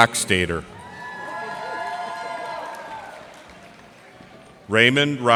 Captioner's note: cheers and applause